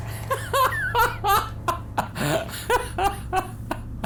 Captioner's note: laughing